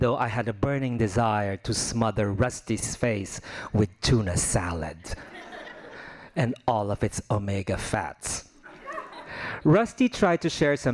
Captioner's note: laughing